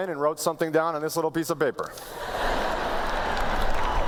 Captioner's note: laughter